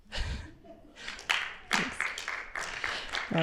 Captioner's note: applause